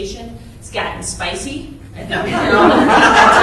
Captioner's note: crowd laughter